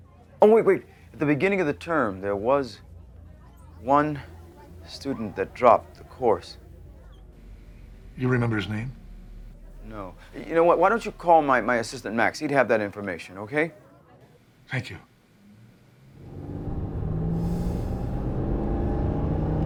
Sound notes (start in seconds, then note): 16.2 high-pitched squeal